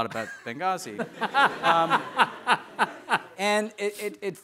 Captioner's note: audience laughing